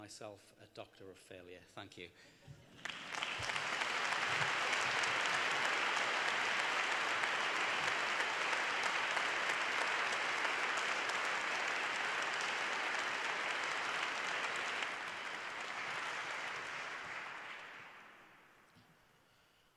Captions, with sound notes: Thank you to the students and staff at York St John to this great honour. I shall call myself a Doctor of failure. Thank you. (Applause)